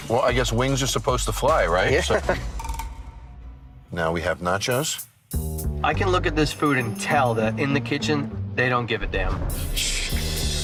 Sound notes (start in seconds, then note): 1.9 chuckles